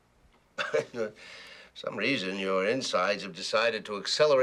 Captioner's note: chuckles